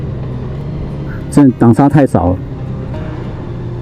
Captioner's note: engine brake